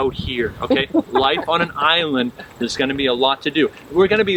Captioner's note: crowd laughing